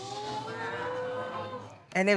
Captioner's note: audience gasps